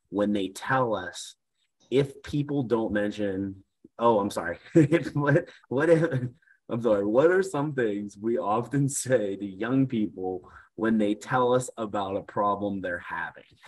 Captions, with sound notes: when they tell us, if people don't mention, oh, I'm sorry (laughs). What if, I'm sorry, what are some things we often say to young people when they tell us about a problem they're having?